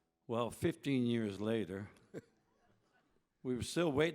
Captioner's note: chuckles